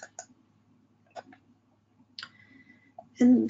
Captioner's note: mouse clicking